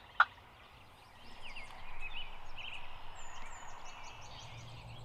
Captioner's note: bird chirps